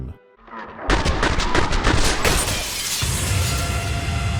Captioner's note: sounds of non-lethal 7.62 controlled burst through the cranium; dramatic sting